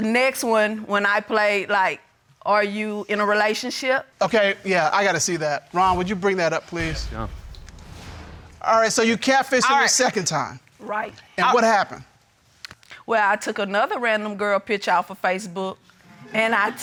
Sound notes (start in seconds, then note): none